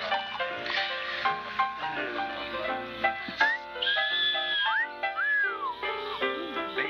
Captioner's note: whistles